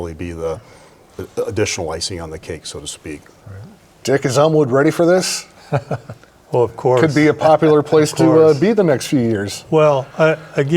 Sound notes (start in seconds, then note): 5.5 laughs